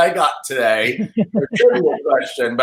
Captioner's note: laughing